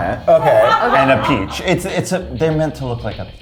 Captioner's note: crew laughing